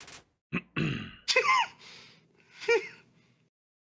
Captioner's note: laughs